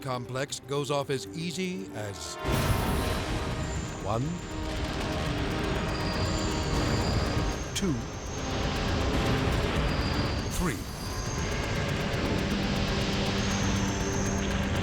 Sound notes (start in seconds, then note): 2.3 building crashing; 2.4 explosion booming; 11.7 intense music